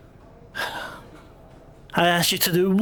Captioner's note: sigh